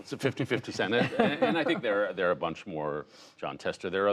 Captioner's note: laughter